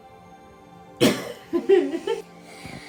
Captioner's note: laughing off camera